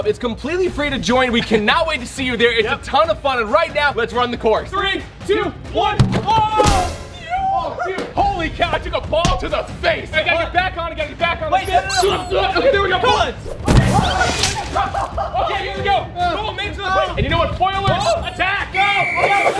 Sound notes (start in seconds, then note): 13.4 screaming; 14.4 laughing; 15.3 splashing; 18.4 splash; 18.8 whistle